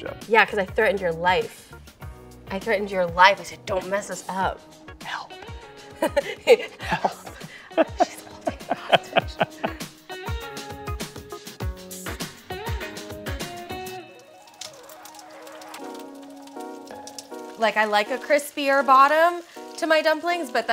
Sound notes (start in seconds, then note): 6.0 Lana chuckling; 10.3 ambient music; 14.7 dumplings sizzling